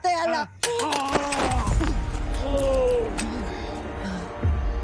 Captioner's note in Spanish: Quejidos